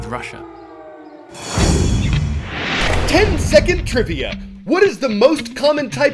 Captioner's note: voice-over